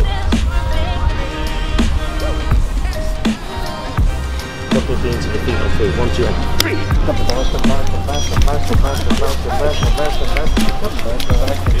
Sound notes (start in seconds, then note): 1.0 upbeat music; 7.0 claps